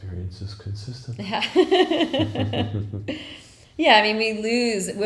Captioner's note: laughing